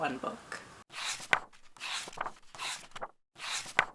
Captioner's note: pages turning